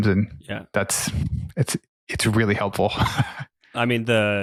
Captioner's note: laughs